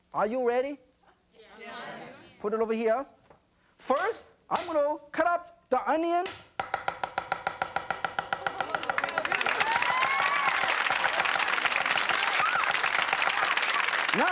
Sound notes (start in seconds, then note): 6.6 chopping; 8.3 audience cheering; 8.7 rapid pace chopping